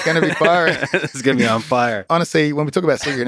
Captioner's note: Lex laughs